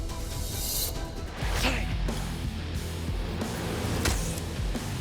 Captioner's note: suspenseful music; grunting; heavy metal music